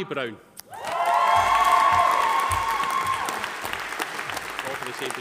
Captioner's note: audience cheering; audience applauding